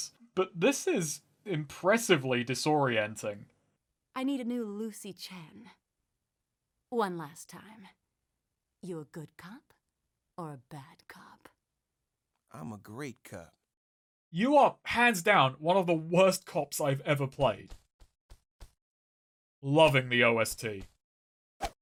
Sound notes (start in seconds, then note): 17.3 footstep sounds